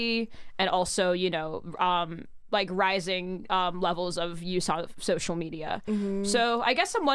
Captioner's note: none